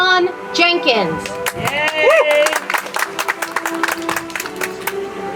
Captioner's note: audience applauds; soft music